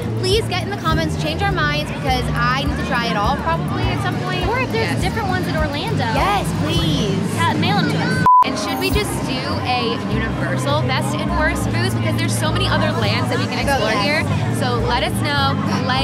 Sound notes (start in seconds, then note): 8.2 beep